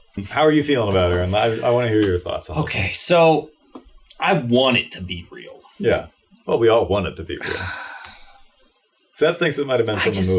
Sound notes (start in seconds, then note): 7.4 sighs